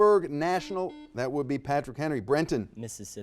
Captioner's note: buzzer dings